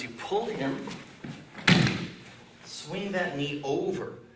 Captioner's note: loud stomping